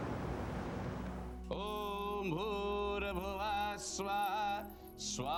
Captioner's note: chanting in foreign language